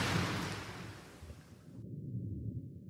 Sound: splash

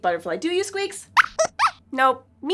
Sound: squeaks squeaks

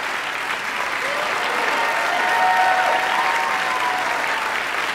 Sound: audience cheering

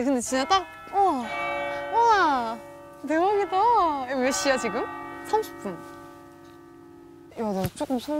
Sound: the church bells greet

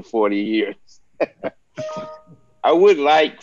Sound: both chuckling

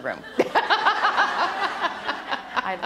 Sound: laughter

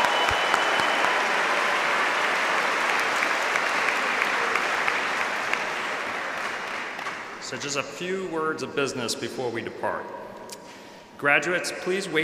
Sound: applause

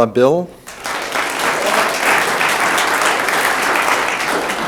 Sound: room applauds

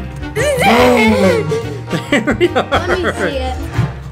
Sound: laughing

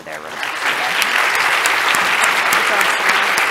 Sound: audience applauding

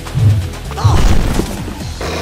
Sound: roar!; slam

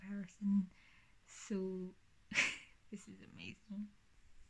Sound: laughs

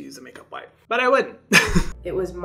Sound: laughing

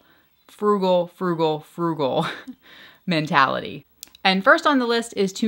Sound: laughs

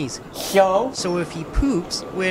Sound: slurping

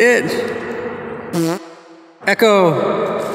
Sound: farts

